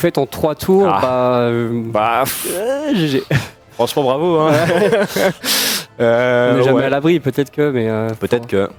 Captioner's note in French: rires